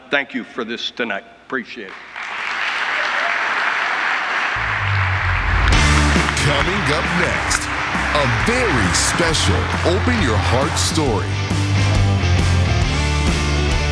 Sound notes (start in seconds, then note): 2.7 audience applauding; 11.2 upbeat music